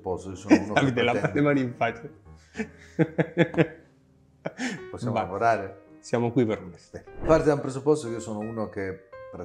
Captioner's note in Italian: risate